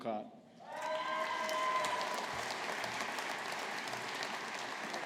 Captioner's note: audience applauding